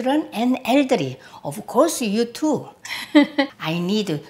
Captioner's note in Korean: 웃음소리